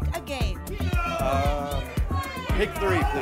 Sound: audience shouting games

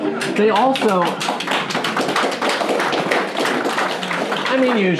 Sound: clapping

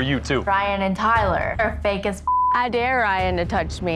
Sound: beep

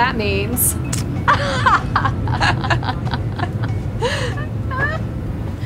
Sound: laughing

